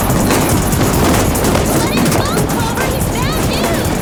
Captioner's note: screaming